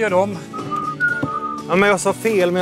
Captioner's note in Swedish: visslar